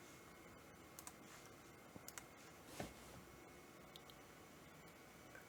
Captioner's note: keyboard clicking